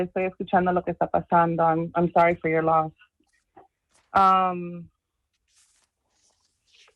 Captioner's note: speaking spanish